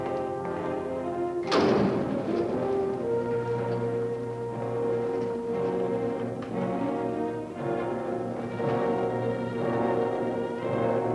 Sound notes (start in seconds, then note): 1.4 elevator door shuts; 2.5 suspenseful music